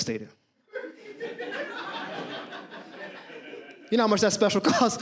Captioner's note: audience laughs